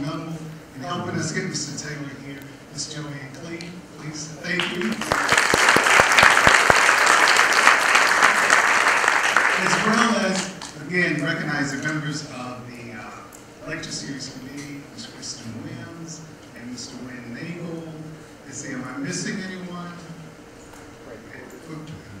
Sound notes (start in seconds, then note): 8.1 applause